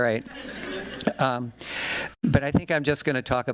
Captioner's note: laughter